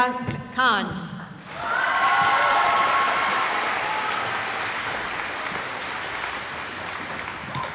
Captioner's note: cheering